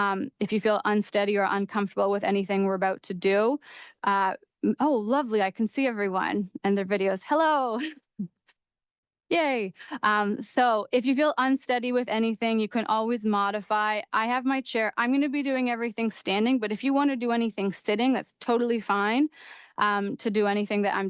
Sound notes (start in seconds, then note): 7.8 chuckles